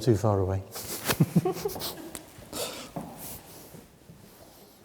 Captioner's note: both chuckling